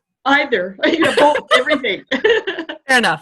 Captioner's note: laughter